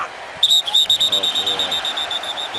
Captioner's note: whistles